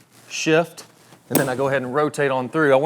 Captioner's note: club clapping ball